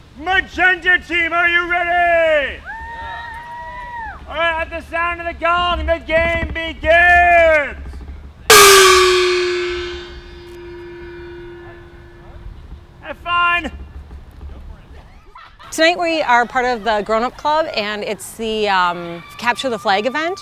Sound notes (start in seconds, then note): 1.8 cheering; 8.5 gong chimes